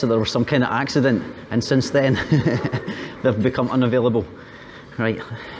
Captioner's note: laughter